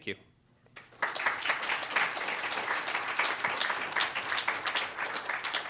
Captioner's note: applause